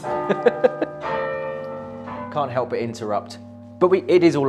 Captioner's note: laughs